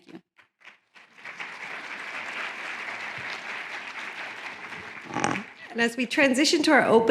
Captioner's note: applause